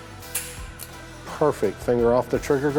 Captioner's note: gun clicks